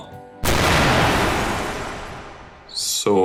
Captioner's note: explosion